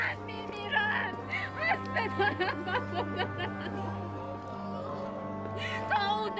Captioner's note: sobbing